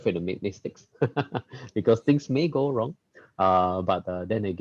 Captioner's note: laughs